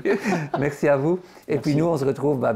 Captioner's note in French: Rire